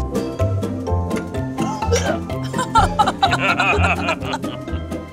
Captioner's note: laughter; gags, laughter